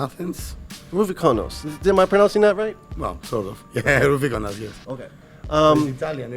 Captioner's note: laughs